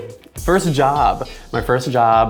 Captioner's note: laughs